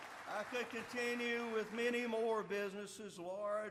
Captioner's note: applause